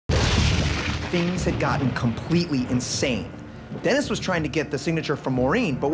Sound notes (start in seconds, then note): 0.1 thunder